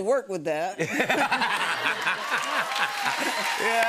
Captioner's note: laughter